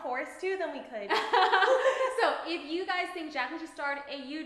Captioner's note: laughing